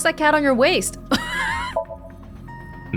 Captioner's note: chuckles